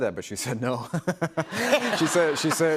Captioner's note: laughter